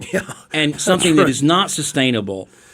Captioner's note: giggle